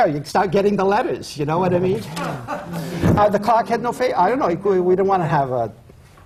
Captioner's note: laughter